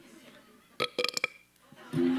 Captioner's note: belch